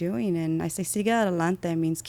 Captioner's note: speaking in foreign language